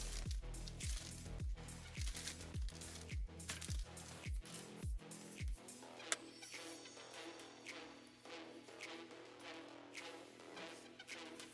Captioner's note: paper rustling